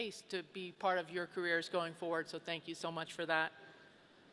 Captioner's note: none